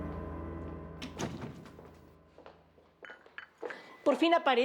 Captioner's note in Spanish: Sonido al cerrar la puerta